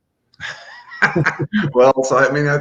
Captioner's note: laughing; laughs